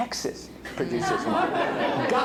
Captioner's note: laughter